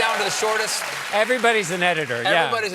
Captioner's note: cheers and applause